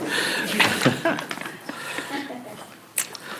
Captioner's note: laughs